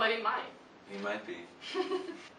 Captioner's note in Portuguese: risos